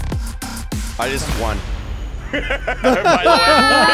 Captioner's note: upbeat electronic music; laughs